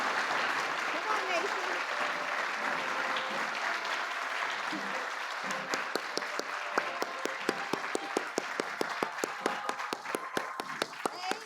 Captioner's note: applause